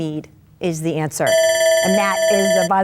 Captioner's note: electric chiming